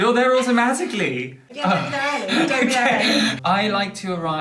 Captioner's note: laughter